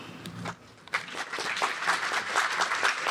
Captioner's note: applause